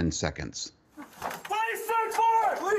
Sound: shouting

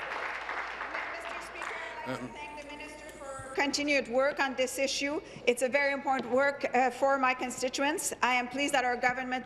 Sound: applause

